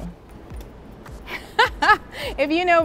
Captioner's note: laughs